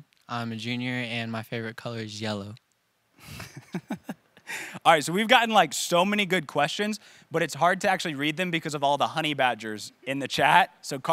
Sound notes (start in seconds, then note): 3.2 chuckles